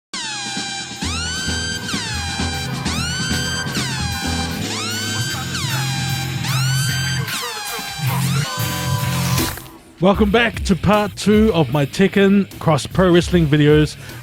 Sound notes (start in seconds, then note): 0.2 sirens blare